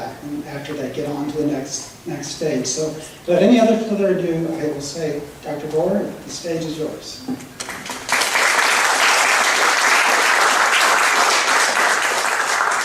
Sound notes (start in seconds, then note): 7.6 audience clapping